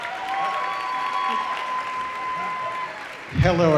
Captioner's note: audience applauding